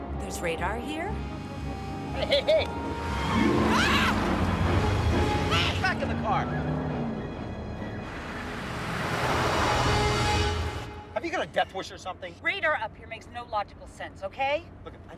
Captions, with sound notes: There's radar here? - Hey, hey, hey! (Jamie screams) (dramatic orchestral music) - Hey! - Back in the car! Have you got a death wish or something? - Radar up here makes no logical sense, okay?